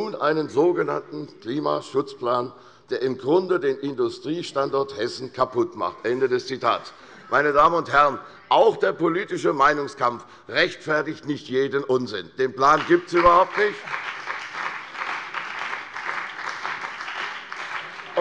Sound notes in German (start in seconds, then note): 12.7 Beifall bei der CDU und dem BÜNDNIS 90/DIE GRÜNEN